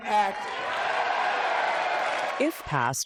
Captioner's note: cheering